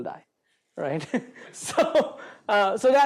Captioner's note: laughs